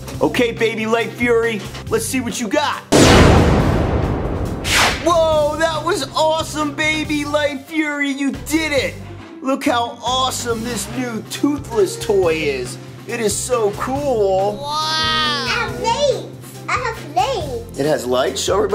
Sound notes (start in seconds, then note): 2.9 shooting sound